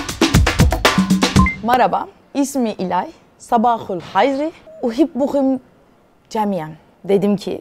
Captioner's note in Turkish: Speaks Arabic